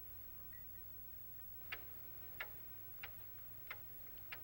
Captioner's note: ticking